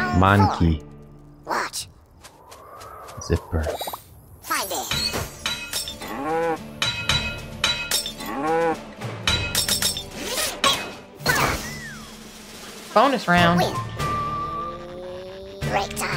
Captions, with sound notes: Monkey. Zipper. [sound effects play] Bonus round!